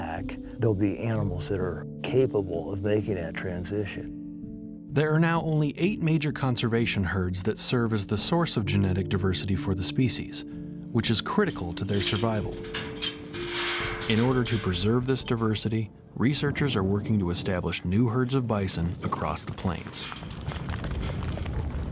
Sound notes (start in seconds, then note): 11.2 gates opening; 19.8 bison running